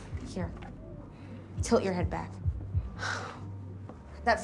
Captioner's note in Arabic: تنهد